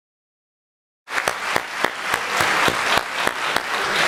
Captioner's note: clapping